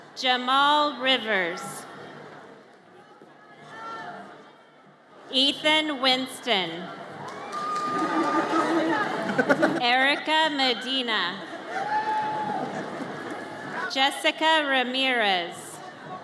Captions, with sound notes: Jamal Rivers. Ethan Whinston. (audience cheers) Erika Medina. (audience cheers) Jessica Ramirez.